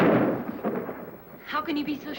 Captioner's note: thunder